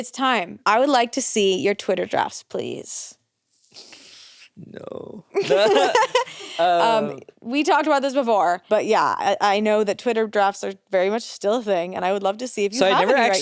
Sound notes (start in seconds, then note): 5.4 everyone laughs